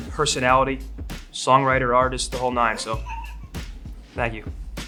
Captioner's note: laughing